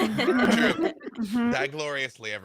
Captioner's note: laughing